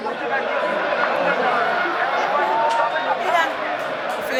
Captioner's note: cheering